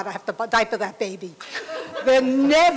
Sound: laughter

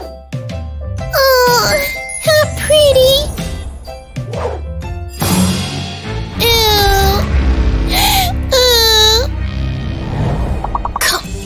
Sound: deep sigh; grunting

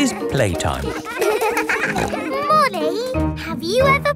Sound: peppa snorting

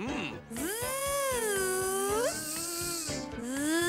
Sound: Tizzy buzzing

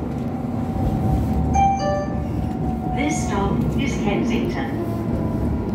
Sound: two Tone Chime

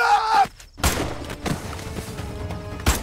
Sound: gunshot

